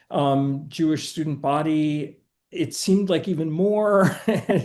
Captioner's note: chuckling